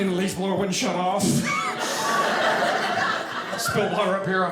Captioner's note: audience laughing